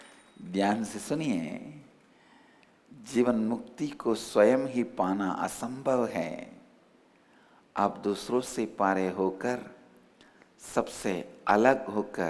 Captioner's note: hindi